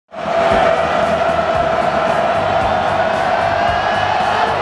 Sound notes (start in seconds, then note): 0.1 crowd cheering